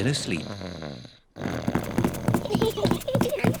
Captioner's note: snores; both giggle